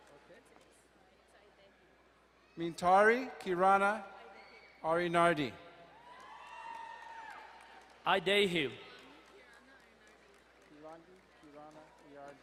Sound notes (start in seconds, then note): 5.9 crowd cheering and applauding